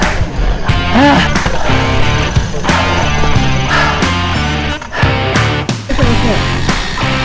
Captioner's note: panting